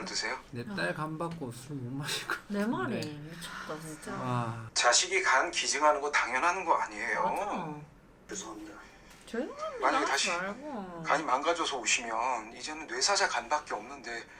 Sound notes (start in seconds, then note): 3.3 sigh